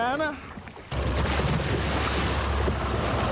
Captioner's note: boat motor roars